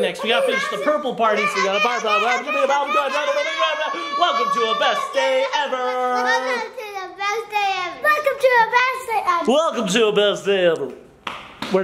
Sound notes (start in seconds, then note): 2.9 everybody making silly sounds